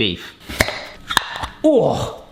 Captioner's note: jar lids popping